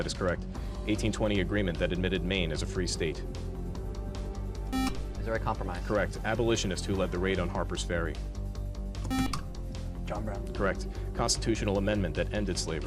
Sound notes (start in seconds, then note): 9.1 beep